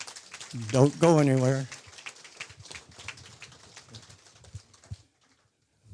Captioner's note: audience applause